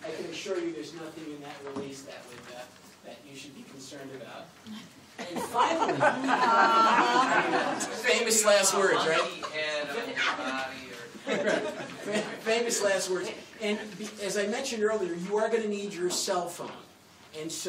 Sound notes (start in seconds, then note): 5.2 laughter